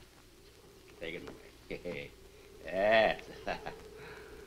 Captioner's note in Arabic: يضحك